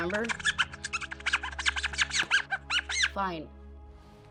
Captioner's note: squeaking